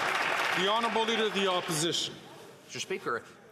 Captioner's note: some Applause